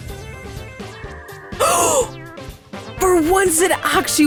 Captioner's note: gasps